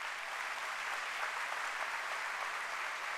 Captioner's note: applause